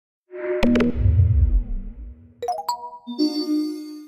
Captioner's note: logo whooshing